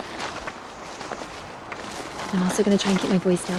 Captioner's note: footsteps crunching